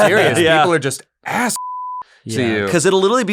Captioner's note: laughter; beep